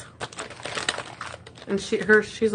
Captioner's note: bag rustling